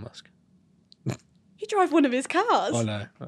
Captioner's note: laughs